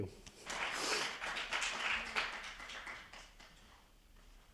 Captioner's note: attendees applauding